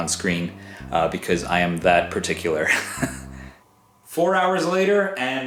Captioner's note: chuckles